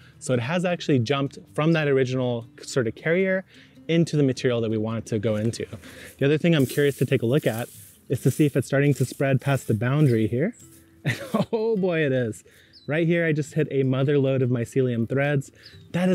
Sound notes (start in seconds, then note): 12.5 bird chirping